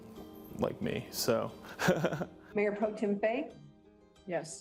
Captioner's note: laughing